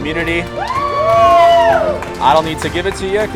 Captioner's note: cheering